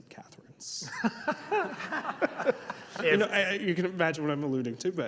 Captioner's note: laughing